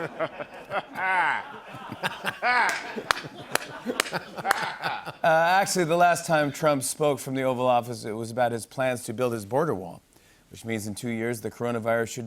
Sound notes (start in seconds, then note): 5.2 laughter